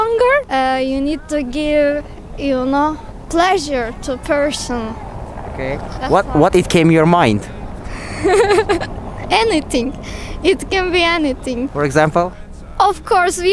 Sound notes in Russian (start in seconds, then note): 7.8 смеется